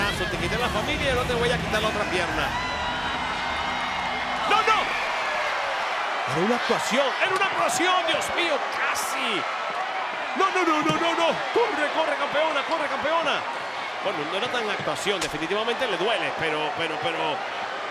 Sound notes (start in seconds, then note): 2.8 applause